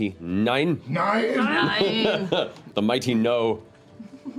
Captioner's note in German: auf Deutsch; auf Englisch